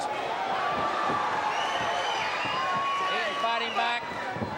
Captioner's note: crowd cheering